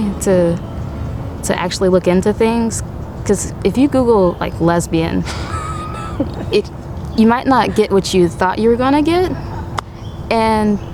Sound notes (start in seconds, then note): 5.2 laughter